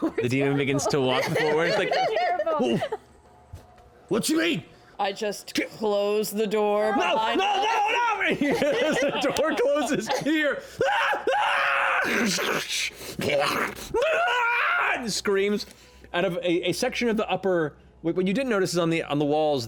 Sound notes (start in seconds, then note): 10.8 screaming; 13.2 snarling